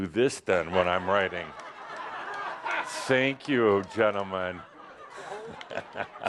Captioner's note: lots of laughter